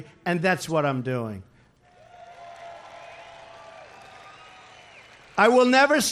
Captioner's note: applause